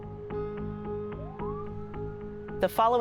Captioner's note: police sirens blaring